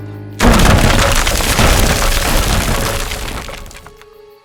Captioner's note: tree thudding